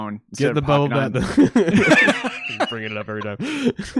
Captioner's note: laugh